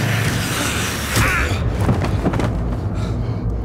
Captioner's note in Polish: uderzenie, odgłos padającego ciała